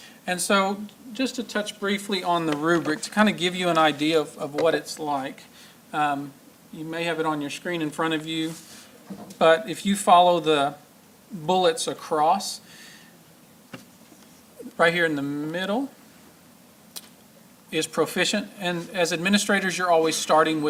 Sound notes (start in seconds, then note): none